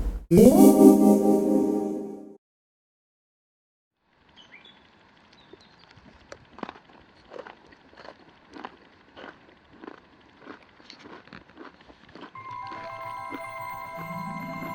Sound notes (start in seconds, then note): 0.3 ethereal zing; 5.8 sound of chewing crunchy biscuits